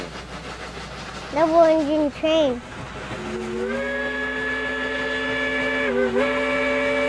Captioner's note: train whistles